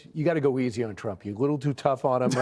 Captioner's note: laughter